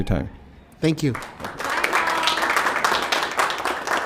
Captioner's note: applause